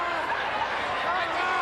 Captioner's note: crowd cheering